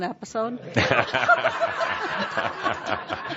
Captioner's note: laughter